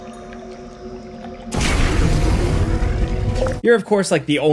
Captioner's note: gun blasting